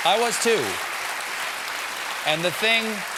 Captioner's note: applause